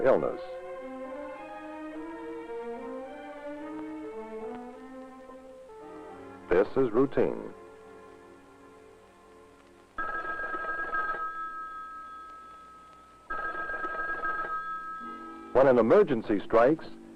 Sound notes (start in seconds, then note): 9.9 telephone ringing